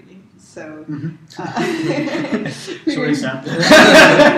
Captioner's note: laugh